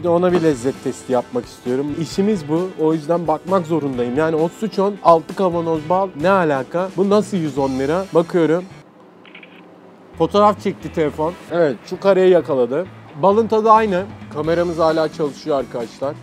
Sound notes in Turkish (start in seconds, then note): 9.2 fotoğraf çekme sesi